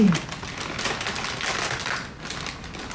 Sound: paper crinkling

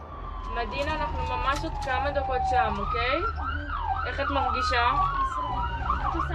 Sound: medic speaking foreign language

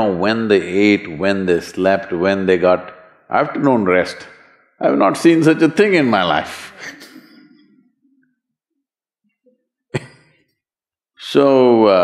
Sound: laughs

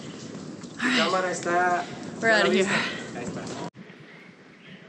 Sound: spanish language

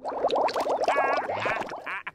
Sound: laughing

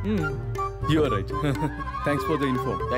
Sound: chuckles

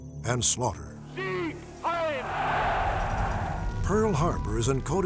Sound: non-english

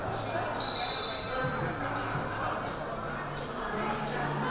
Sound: whistle blaring

